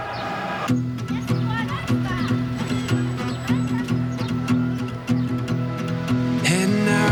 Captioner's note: people chattering; gentle guitar music